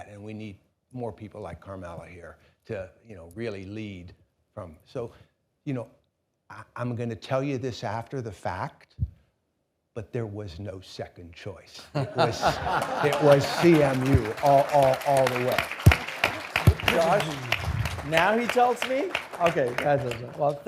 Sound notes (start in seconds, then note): 12.2 audience applauding; 15.5 audience applauding